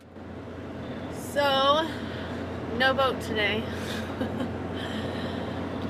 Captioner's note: laughs